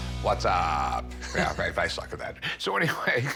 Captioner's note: chuckles